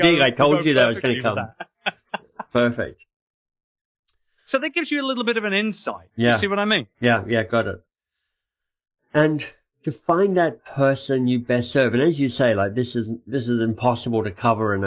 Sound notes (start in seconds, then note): 1.8 laughing